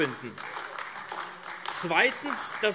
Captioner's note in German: Beifall AfD